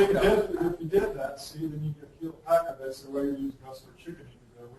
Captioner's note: laughing; distorted speech